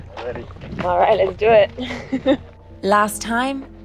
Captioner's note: laughs